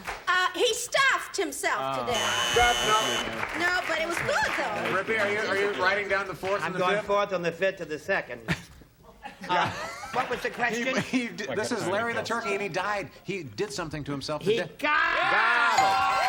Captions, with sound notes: - Hey. - Good for you. - He stuffed himself to death. [buzzer] - No. - No. But it was good, though. - Rip, are you writing down the 4th and the 5th? - I've got, 4th on the 5th to the 2nd. What was the question? - This is Larry the Turkey, and he died. He did something to himself.